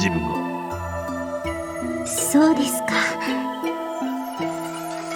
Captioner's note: in a happier tone